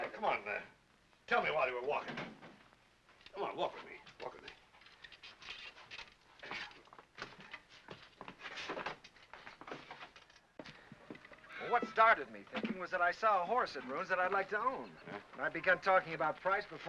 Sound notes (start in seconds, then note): 8.8 door opens